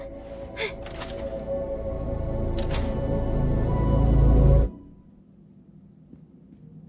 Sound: Pomni gasps; door clicks

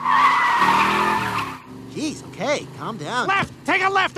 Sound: tires squeal

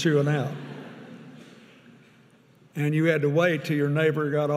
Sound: audience laughing

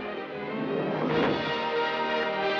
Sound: thud

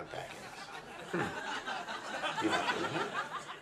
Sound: audience laughs

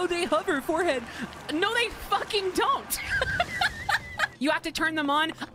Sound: laughter

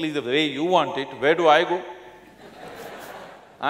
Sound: laughter

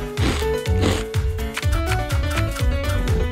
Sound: yells

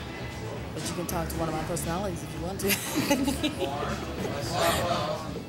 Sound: laughs

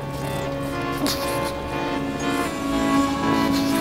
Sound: wounded scientist whimpers on floor

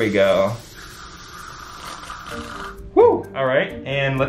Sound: liquid swooshing

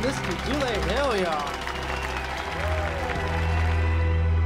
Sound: cheering and applause fade

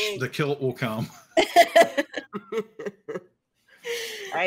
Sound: both laughing

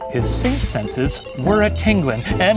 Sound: electronic crackling

